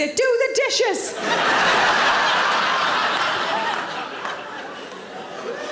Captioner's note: audience laughing